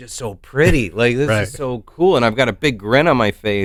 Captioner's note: chuckles